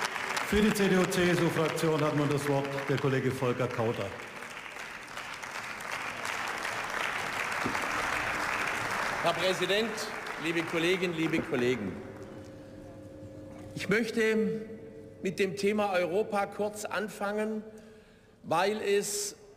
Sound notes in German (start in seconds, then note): 0.0 Beifall; 4.1 Beifall